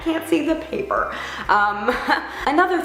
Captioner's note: laughs